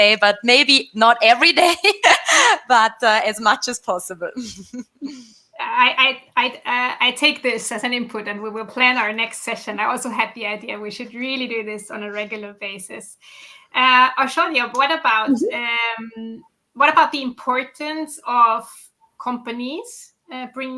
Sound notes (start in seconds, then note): 4.4 laughs